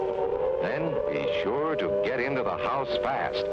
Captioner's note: loud siren